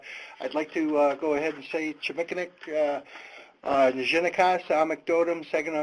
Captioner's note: foreign language